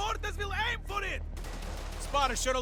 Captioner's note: pop, pop, pop